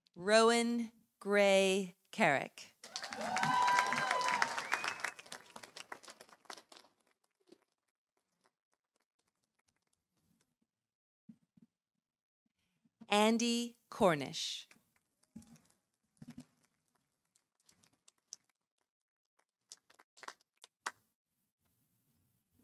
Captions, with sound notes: Rowan Gray Carrick. -(audience cheering) -(audience applauding) Andy Cornish.